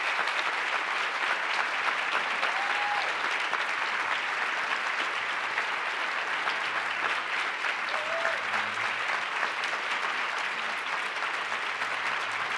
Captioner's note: applause